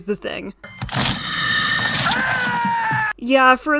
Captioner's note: screams of pain and horror